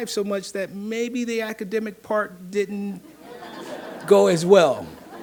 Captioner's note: audience laughing